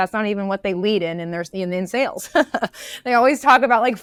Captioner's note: laughs